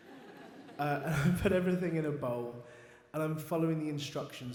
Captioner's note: audience laughs